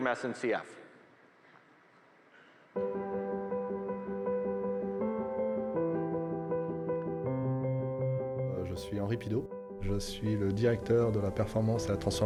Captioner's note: speaking French